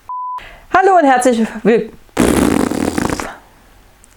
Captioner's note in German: pffft